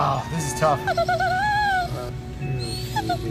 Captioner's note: Maple whines